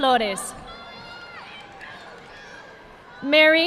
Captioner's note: audience clapping